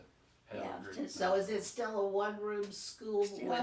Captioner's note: pat